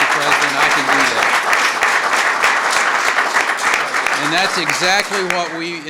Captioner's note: applause